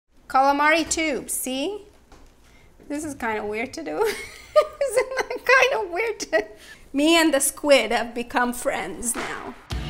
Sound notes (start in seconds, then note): 4.0 laughs